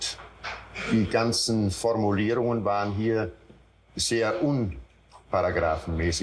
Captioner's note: Eichmann continues speaking German